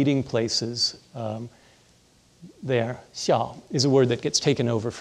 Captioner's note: speaking in foreign language